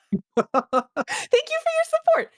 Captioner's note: laughing